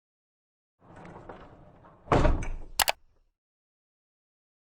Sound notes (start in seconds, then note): 1.2 clicking sounds